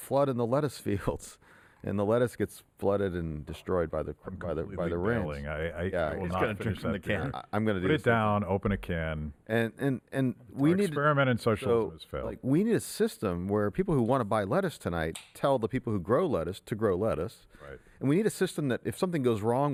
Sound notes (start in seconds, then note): 6.1 murmurs